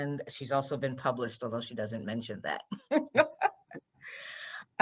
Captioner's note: laughs